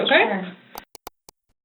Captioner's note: click